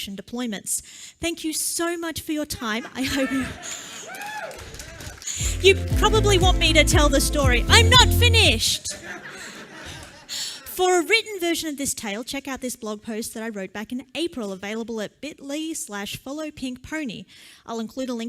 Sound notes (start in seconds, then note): 4.6 laughter